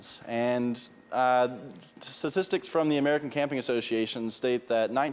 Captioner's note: none